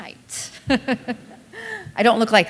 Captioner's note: laughter